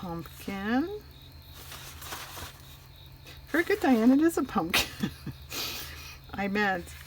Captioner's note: laughs